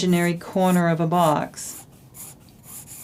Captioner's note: drawing sounds